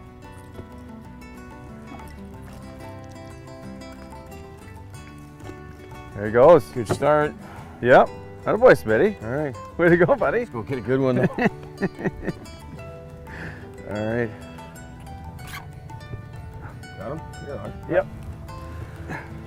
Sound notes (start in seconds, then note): 11.1 laughter